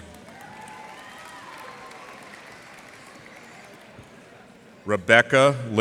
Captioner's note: cheers and applause